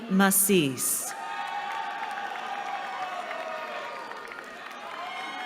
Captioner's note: cheering